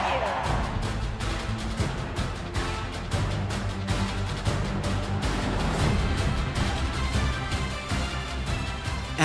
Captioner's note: cheering